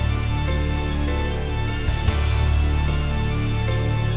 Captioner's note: none